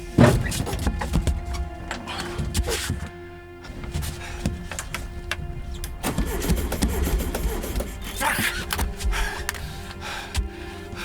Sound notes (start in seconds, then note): 6.1 engine sputtering